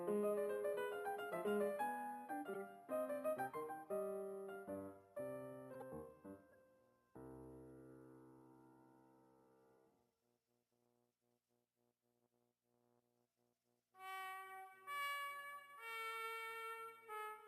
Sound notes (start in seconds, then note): none